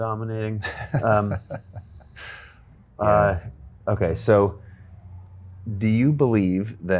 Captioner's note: laughing